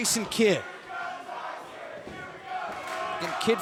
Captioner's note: fans chanting